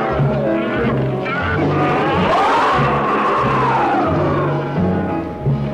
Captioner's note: intense instrumental music; creature roaring